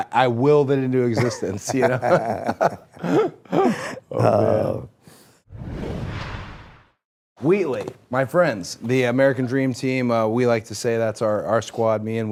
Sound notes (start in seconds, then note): 2.8 people laughing